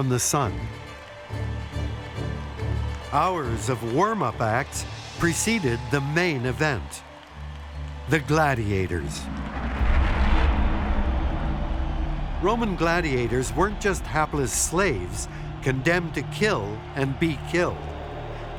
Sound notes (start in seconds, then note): 0.3 cheers in distance; 9.6 shouts from the crowd